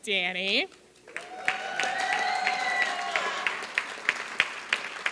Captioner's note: applause